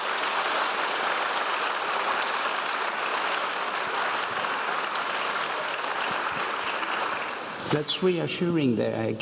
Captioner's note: applause